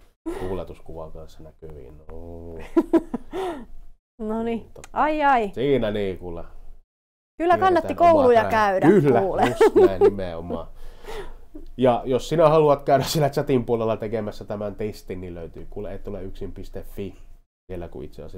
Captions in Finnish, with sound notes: Laitetaan tohon toi tuuletuskuva kans näkyviin. No ni, aijai! - Siinä nii kuule... Kyllä kannatti kouluja käydä. [Naurahtaa] - Just näin, nimenomaa. Ja jos sinä haluat siellä chatin puolella tekemässä tämän testin, - nii löytyy etoleyksin.fi.